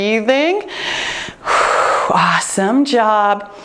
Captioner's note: exhaling